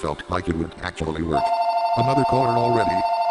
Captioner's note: phone ringing